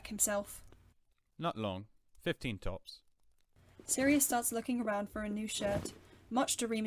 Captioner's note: fabric rumpiling